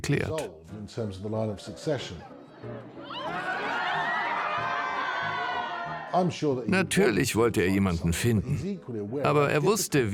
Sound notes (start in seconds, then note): 3.1 crowd laughing